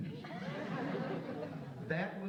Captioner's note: audience laughs